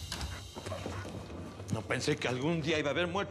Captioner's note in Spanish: sonido al abrir la puerta